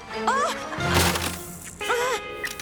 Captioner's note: crunch